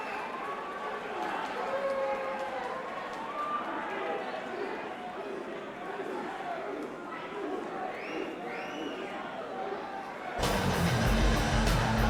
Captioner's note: crowd chatter